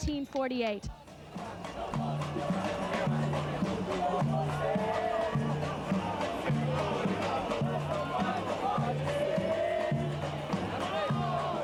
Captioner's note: parade chatter